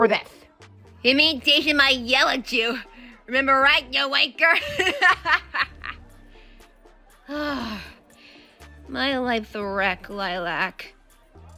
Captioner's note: laughs; sigh